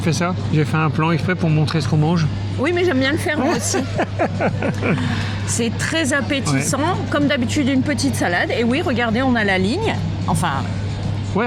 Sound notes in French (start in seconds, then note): 3.2 rires